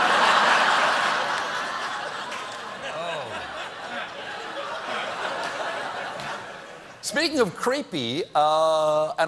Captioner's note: laughter